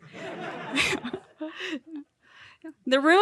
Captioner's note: audience laughing